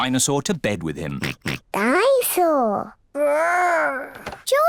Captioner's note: oinks